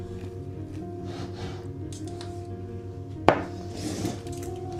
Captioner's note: snort